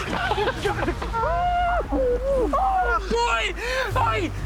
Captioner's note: laughing